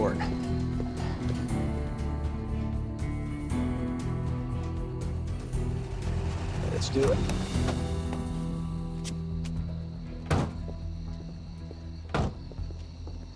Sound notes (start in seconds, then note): 0.1 tense music; 10.2 car doors close; 10.2 car doors open